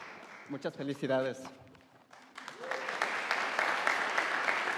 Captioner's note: speaking in a foreign language; audience applauding